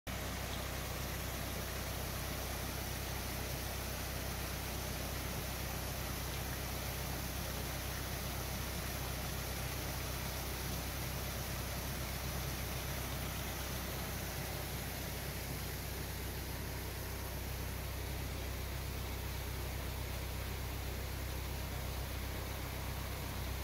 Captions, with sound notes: For this vlog, we haven't created a voice over track We managed to misplace a whole journeys worth of video and only have the footage that we shot using a mobile phone [Sounds of the boats diesel engine and water hitting the cill behind the boat] So if you are watching with subtitles or CC, these comments are just for you! We are right outside the New Inn at Long Buckby. The road infront of us, that we are heading under is the A5.